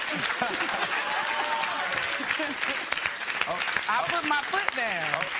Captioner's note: laughter